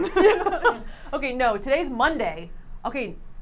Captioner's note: laughs